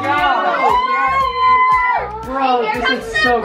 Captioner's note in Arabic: تصرخ